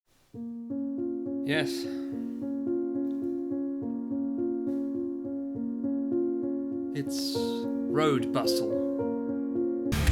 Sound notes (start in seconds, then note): 2.0 exasperated; 3.5 sigh